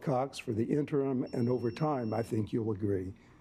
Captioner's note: alarm beeping